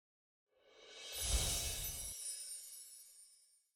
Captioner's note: chimes ringing